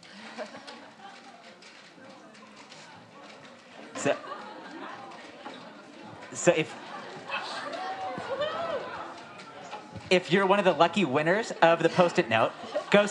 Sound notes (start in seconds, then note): 0.2 audience members laugh; 7.2 audience members cheer